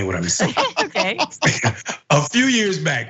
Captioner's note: laugh